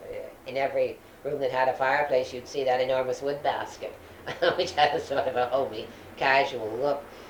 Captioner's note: laughs